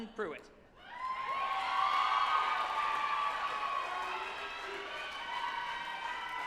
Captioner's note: group applauding and cheering